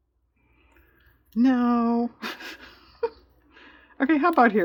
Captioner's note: laughs